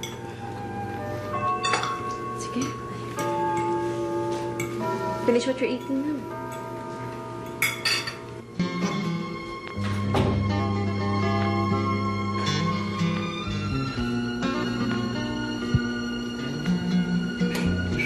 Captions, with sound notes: All right. Finish your food. -[mellow music playing] -[door closes]